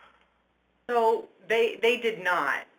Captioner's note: voiceover